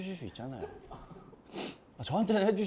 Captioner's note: sniffles